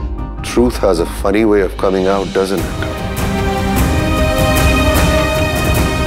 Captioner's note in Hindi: none